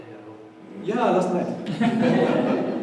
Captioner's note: audience laughs